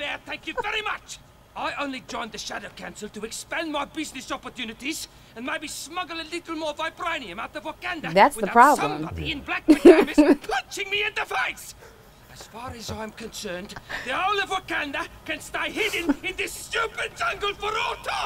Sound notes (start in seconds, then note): 8.7 laughs; 12.6 chuckling